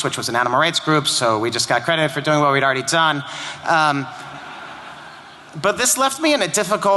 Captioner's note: laughter